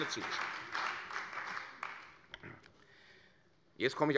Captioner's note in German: Beifall bei der CDU und dem BÜNDNIS 90/DIE GRÜNEN